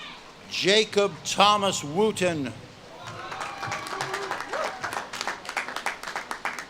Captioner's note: audience claps and cheers